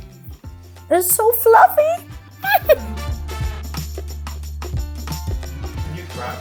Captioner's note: giggles